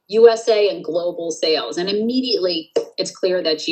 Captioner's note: claps hands